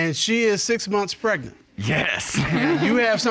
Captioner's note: chuckles